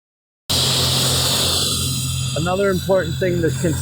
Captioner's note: sandblaster whooshing